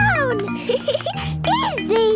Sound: giggling

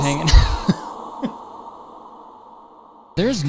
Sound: laughs

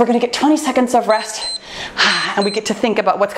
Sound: timer beeps

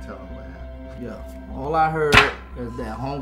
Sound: slaps

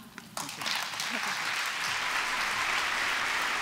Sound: applause

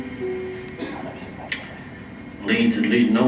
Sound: whispering

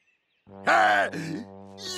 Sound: laughs

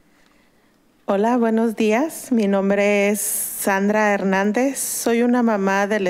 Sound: woman speaking foreign language

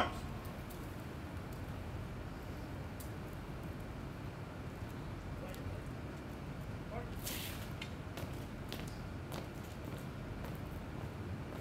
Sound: marching

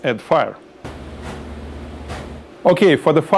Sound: puffing sounds

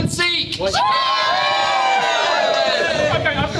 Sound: everyone cheering

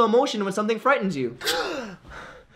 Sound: gasps

